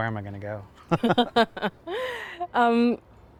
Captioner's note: laughs